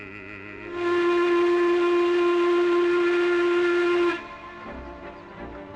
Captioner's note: ship horn blasting